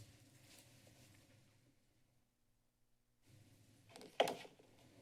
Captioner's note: silence